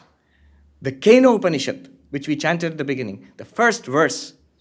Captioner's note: hindi